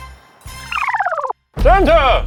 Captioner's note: scene beeping